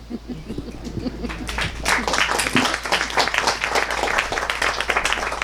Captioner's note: audience clapping